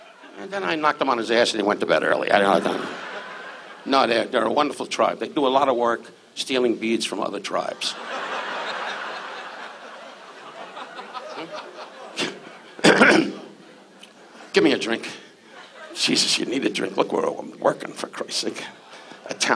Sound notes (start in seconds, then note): 2.3 audience laughs; 2.8 Don muttering; 7.7 audience laughs; 12.7 Don coughs